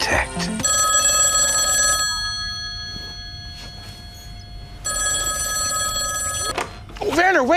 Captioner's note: phone ringing